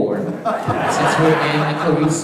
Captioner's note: audience laughing